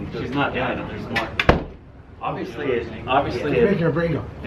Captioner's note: background mumbling; door closing